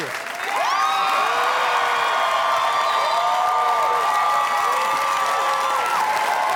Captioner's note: audience applauding; crowd cheering